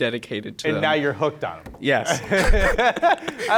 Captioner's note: both laughing